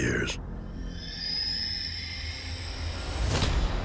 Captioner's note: creature screeches